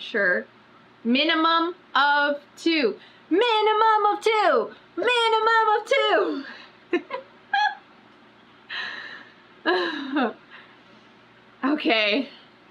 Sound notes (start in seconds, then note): 7.5 laughs